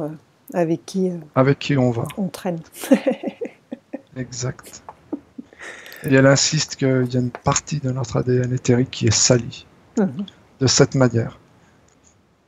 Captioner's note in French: rires